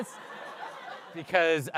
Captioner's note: laughter